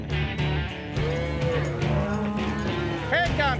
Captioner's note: cows moo